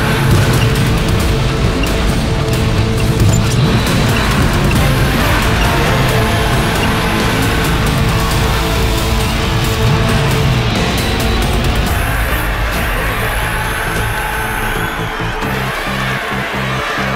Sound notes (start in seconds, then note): 11.8 loud cheering; 15.7 crowd Cheering